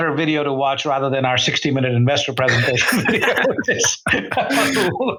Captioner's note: laughs